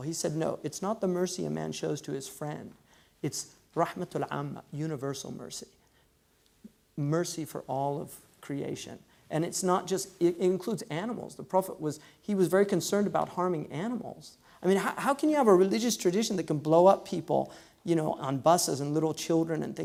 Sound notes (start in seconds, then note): 3.6 foreign language